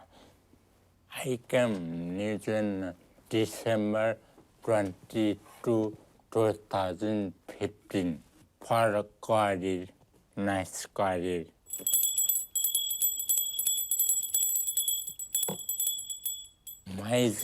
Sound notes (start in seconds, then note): 11.7 rings bell